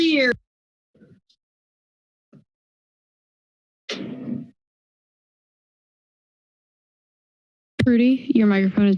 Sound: silence

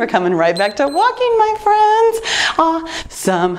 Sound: timer beeps

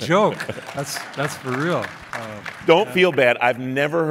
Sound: clapping

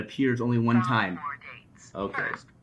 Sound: computer Voice

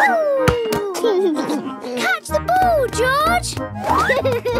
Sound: giggles

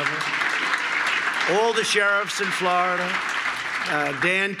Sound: applause

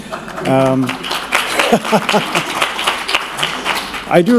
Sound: applause

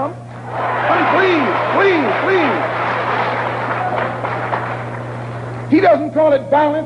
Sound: applause

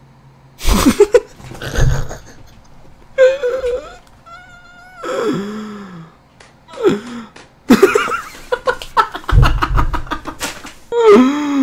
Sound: laughter

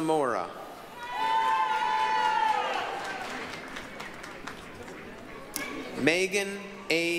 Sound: applause, cheering

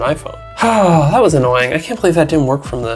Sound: sighs

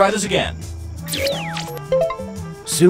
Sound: buzzing; beeping

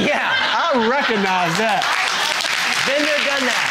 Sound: audience clapping

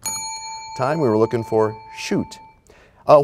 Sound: bell rings, time expires

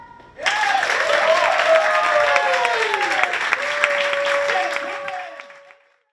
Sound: applause

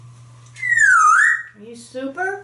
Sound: whistles

